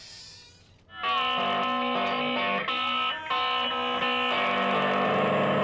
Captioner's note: screams; discordant guitar playing